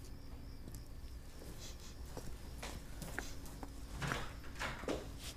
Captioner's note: sniffing